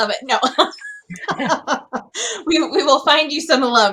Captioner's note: laughing